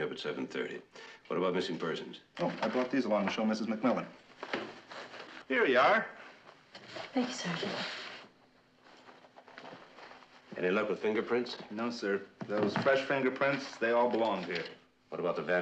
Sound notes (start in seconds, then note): none